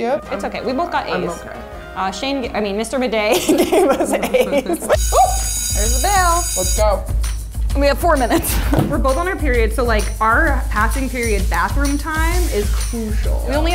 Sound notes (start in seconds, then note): 4.9 bell ringing